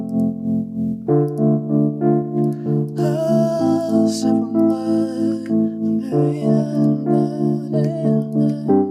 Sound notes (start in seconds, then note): 2.8 humming